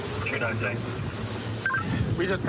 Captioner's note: radio communication